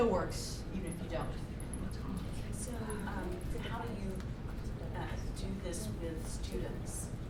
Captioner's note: voiceover